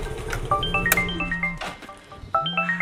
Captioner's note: phone Ringing